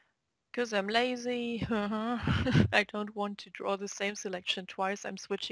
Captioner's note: chuckle